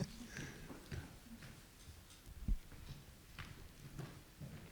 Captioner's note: laughs